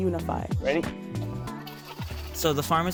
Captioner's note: fence rattling